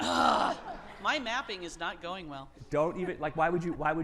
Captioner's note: groans; audience laughing